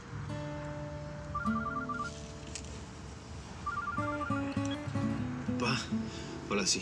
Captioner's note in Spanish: suena el celular